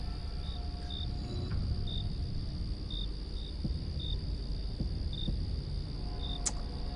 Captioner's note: crickets chirping; suspenseful music